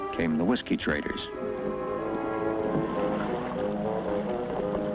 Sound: paddles splash

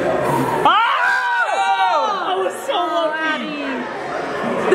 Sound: group shouts

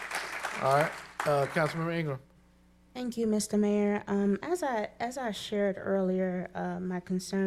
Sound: applause

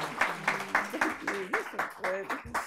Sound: audience applauding

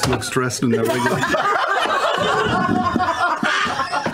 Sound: laughing

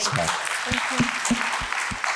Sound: applause

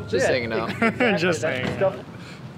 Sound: laughs

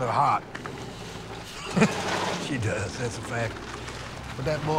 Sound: laughs

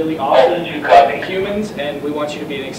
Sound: radio noise

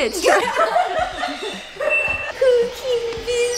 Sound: laughs loudly

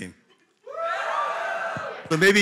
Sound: cheering

